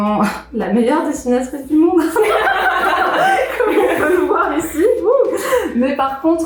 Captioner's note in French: rires